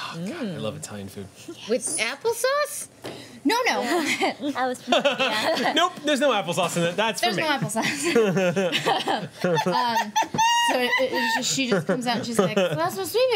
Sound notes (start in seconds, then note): 4.8 laughter; 9.2 laughter